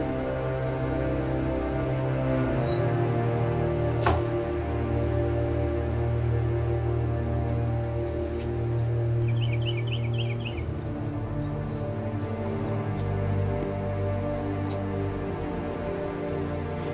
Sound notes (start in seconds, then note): 8.6 birds chirping